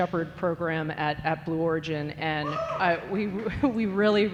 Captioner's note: audience member cheering